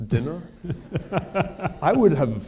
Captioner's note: laughter